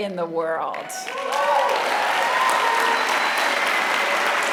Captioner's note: applause